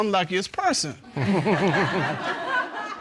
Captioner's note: chuckles